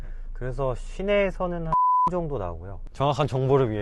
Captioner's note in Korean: 삐익